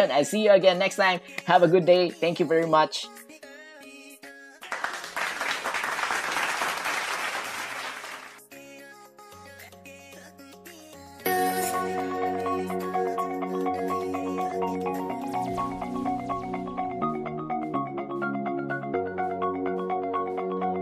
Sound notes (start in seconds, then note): 4.6 clap